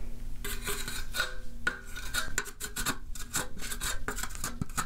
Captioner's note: trowel scraping